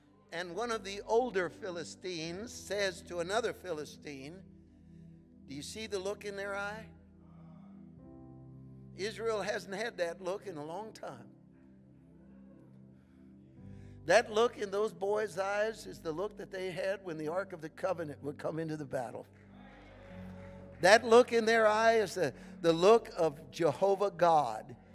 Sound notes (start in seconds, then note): 11.3 gentle upbeat music; 19.4 congregation cheering